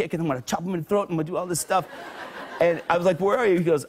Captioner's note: laughter